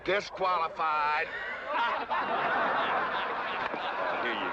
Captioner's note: crowd laughing